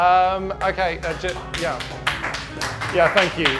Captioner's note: everyone claps